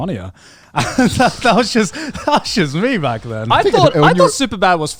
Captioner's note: laughs